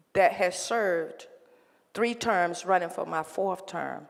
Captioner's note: none